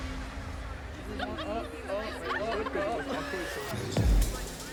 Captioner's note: all laughing; upbeat music